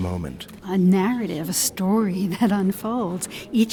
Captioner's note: voiceover